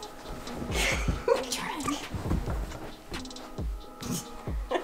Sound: laughing

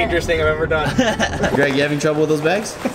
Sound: laughing

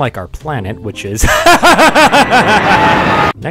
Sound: panic laugh

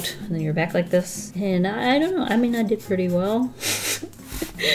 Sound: sniggers

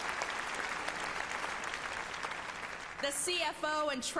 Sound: applause

